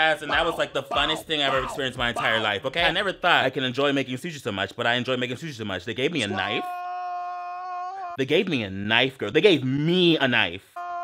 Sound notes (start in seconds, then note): 6.2 man screaming indistinctly; 10.7 man screaming indistinctly